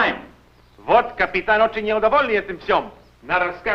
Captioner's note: foreign language